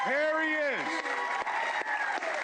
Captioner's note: applause